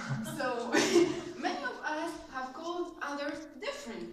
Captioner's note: laughs